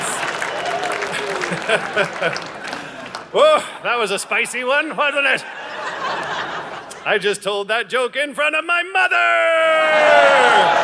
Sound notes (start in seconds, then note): 0.8 audience laughing; 5.8 audience laughing; 10.0 audience laughing and cheering